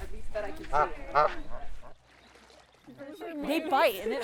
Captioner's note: duck honking